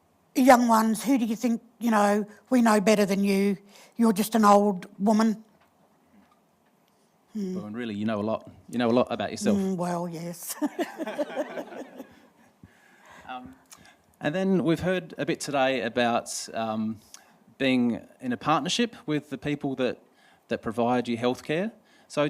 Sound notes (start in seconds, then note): 10.6 laughter; 10.7 laughs